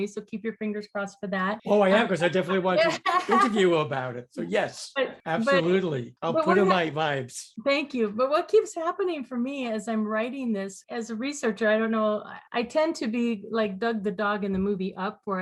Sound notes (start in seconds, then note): 1.7 stammers and laughs; 7.1 stammers